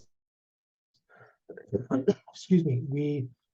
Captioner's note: cough